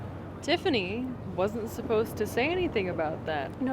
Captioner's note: none